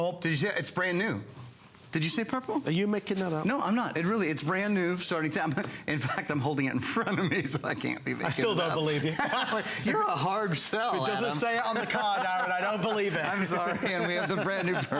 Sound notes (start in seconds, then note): 8.3 laughter; 11.5 laughter